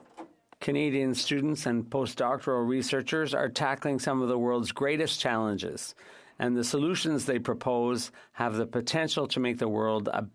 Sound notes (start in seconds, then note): 2.9 speaking French